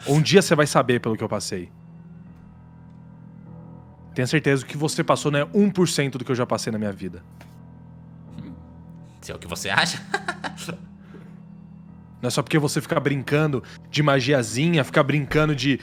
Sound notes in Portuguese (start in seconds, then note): 9.7 riso irônico